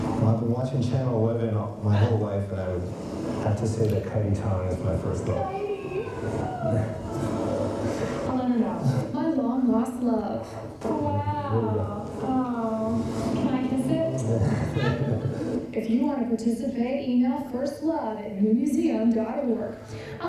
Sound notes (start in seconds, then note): 14.0 smacks; 14.4 chuckles